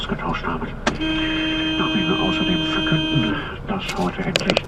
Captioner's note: horns